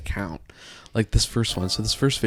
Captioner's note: chimes ringing